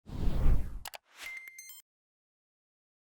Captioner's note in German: Air Whooshing